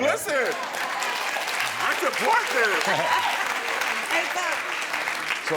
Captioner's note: audience applauding